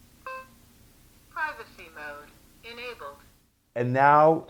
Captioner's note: beeping; digital Female Voice